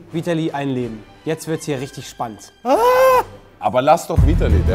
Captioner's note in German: Aufgeregter Schrei